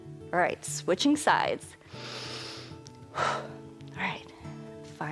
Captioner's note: inhales and exhales